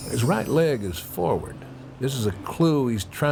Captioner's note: bells chiming